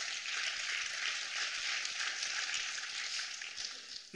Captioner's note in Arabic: تصفيق